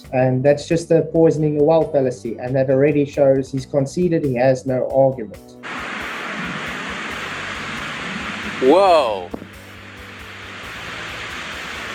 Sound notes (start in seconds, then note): 5.6 sound of the waves and wind